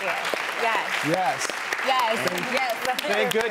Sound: applause

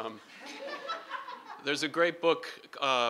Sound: laughing

